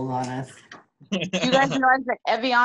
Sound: laughter

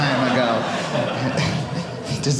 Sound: audience laughing

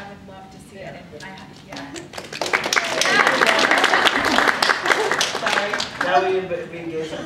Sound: applause

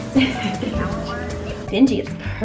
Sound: laughs

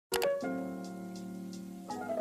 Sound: click noise

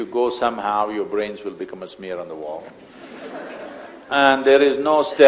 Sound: laughter

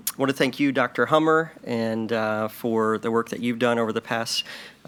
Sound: none

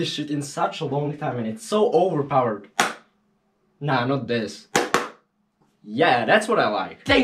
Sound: clap; clapclap

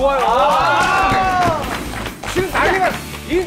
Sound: scream!

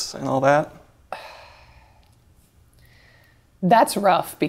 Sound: sighs

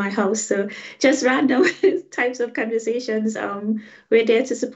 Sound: laughing

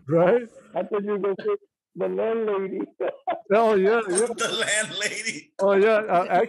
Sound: laughter

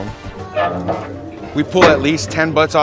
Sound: smoker squeaks

